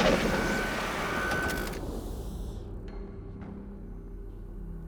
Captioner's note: electronic beeping